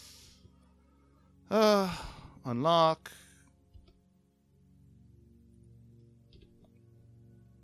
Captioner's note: sigh